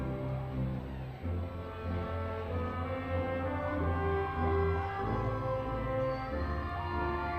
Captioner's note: crowd cheering